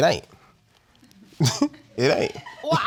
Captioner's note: chuckles